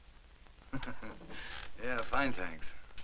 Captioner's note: chuckling